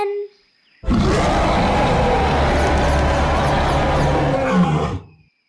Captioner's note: biggest, most terrifying roar ever